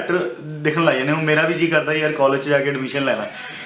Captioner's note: laughs